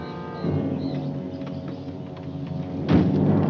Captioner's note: insects chirping